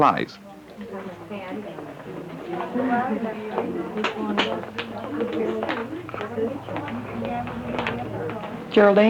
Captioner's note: murmuring